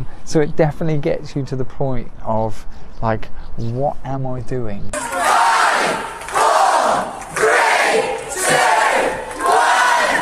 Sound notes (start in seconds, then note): 4.9 crowd